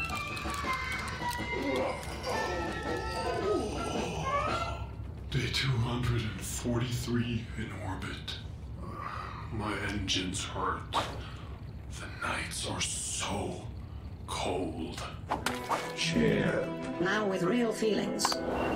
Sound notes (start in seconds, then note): 1.4 CH1-P groans